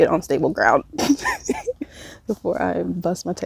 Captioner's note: laughs